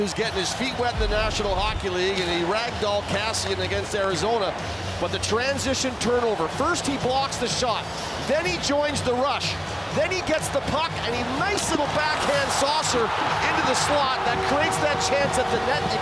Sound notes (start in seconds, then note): 1.9 horn; 4.5 cheering